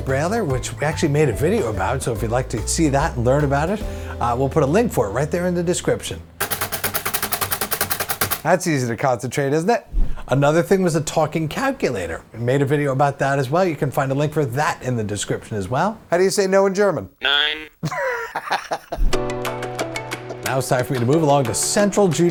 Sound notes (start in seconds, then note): 6.4 banging on brailler